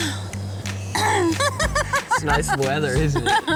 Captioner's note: chuckles; laughter